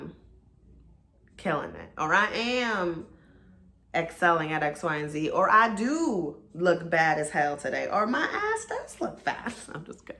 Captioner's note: giggles